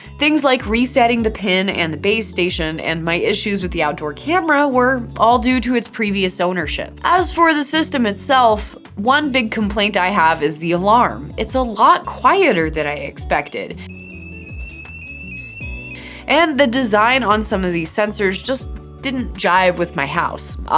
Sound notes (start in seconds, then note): 13.7 alarm ringing